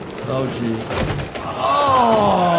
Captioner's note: ball thuds